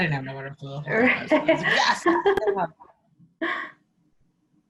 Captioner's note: laughing